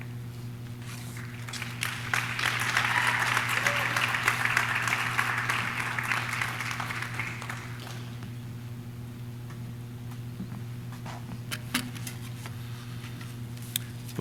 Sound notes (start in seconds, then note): 0.8 audience clapping; 1.1 audience cheering